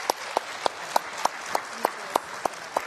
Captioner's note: applause